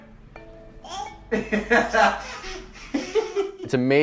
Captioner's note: laughs